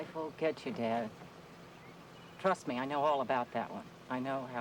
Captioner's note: birds chirping